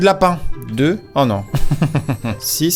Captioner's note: giggles